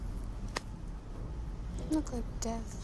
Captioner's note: none